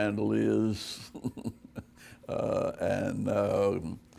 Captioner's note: chuckling